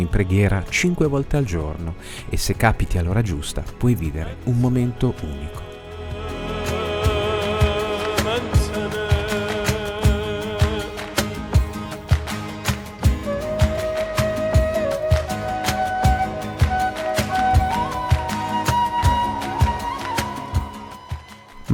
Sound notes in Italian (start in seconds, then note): 7.9 Applauso